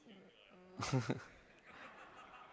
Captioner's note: laughter